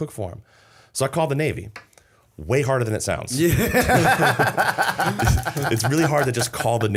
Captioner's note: laughter